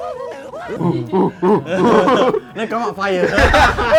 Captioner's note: more ape noises